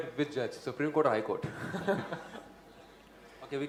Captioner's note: laughs